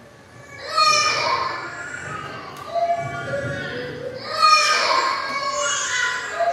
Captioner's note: baby crying